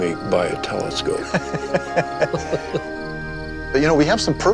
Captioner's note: laughter